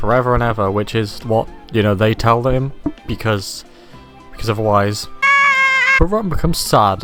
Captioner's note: Rotten screams